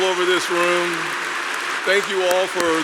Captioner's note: applause